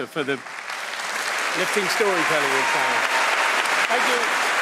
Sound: applause

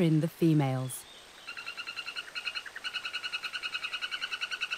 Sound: frog croaking

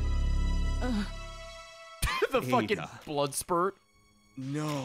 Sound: laughs

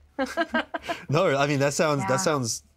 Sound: both chuckle

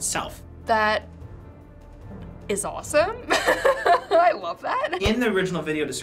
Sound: laughs

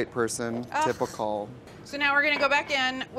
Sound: scoffs

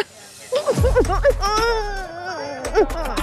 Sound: laughing

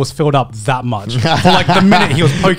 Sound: laughing

